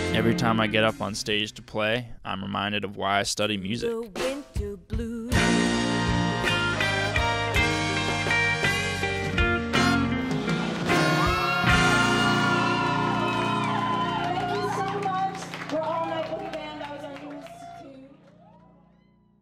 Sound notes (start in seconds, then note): 5.2 cool jazz music; 10.5 people cheering